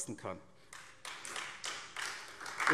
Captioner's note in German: Beifall SPD